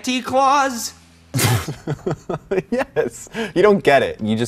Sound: laughs

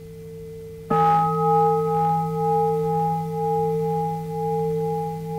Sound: bell rings

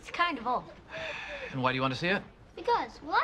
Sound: sighs

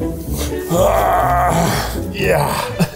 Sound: groans

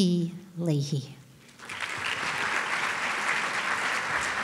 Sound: applause

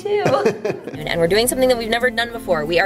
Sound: laughs; male voice laughing

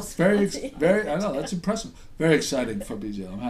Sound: voiceover

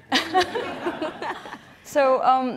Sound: audience laughing

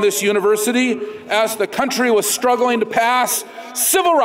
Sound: none

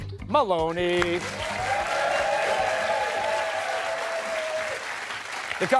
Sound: cheers and applause

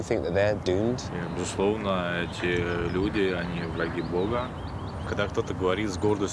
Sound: speaking in foreign language

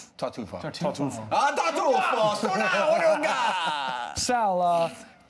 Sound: shouts in Italian

